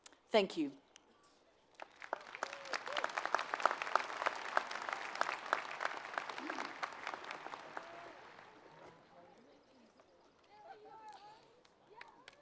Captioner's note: applause